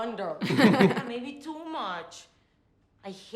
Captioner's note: both laugh